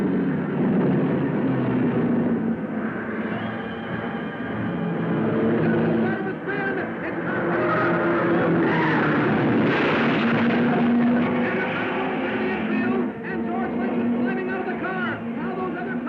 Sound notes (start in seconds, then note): 0.0 dramatic music; 0.1 cars revving; 8.1 tires squealing; 10.2 car crashing